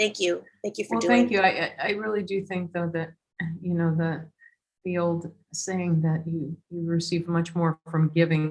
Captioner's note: none